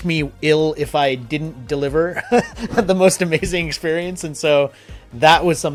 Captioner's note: laughs